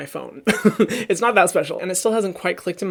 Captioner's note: laughing